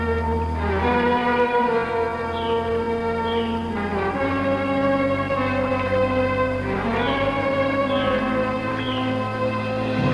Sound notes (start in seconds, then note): none